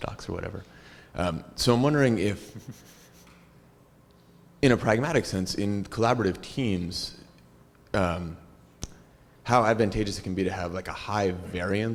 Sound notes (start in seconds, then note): 2.4 laugh